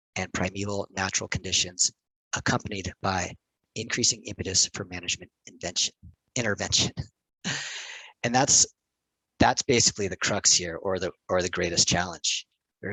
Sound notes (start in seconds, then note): 7.5 laughs